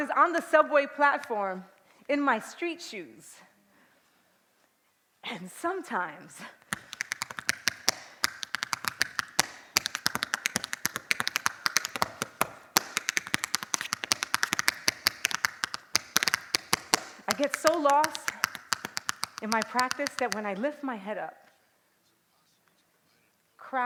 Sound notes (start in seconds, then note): 6.4 tapping